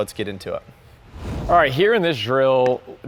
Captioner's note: air whooshes